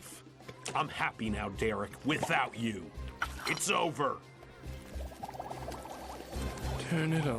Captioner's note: jiggle noises